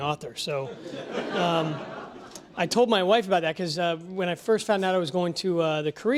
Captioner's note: laugh